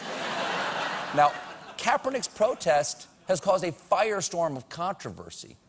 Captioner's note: laughter